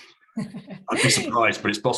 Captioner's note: both laugh